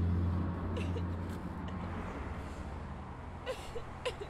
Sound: crying

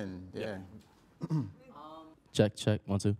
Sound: clears throat

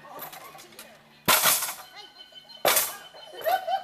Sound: teeter totter slamming; laughing

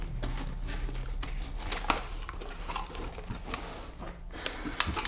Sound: packet whirring

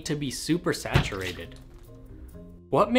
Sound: thud; splash

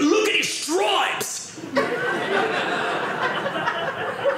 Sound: audience laughing

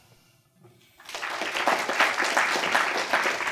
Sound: applause

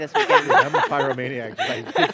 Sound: laughing

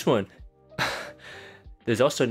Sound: exasperated sigh

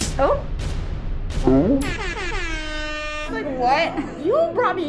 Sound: siren blares

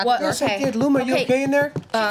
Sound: overlapping chatter

